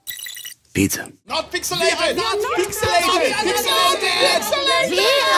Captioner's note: crowd shouting